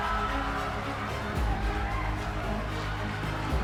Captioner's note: all cheering